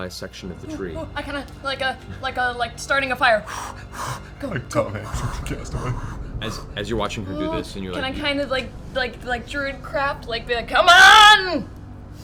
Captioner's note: blows air